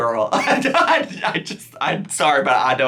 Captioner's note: laughing